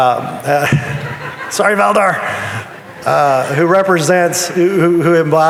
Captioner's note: audience chuckling